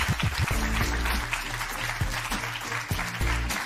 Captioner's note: applause